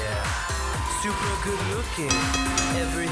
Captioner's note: bell ringing